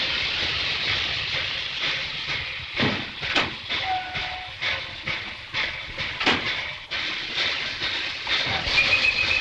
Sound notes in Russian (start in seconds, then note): 3.7 свист поезда